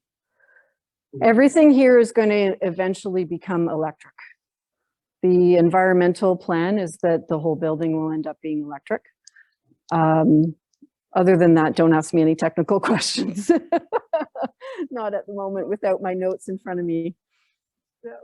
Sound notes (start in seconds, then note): 13.4 laughs